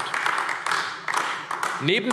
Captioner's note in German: Beifall AfD